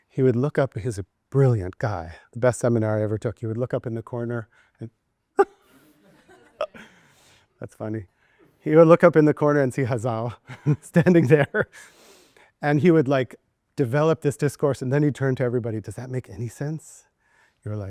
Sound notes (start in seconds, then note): 6.0 and students laughing